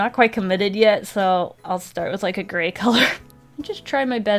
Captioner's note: laughs